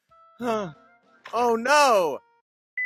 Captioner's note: sigh